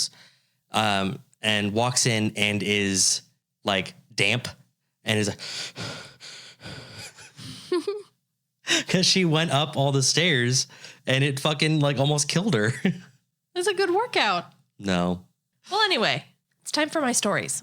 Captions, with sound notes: and walks in and is like damp, and is like, (breathing heavily) because she went up all the stairs, and it fucking almost killed her. - It was a good workout. - No. - Well, anyway, it's time for my stories.